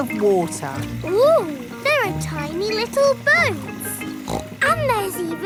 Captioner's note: snorts